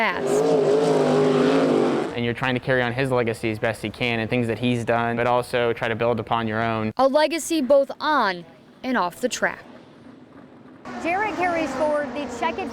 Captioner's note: racing sounds